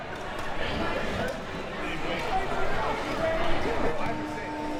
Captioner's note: audience chattering